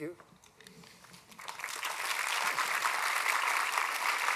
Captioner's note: applause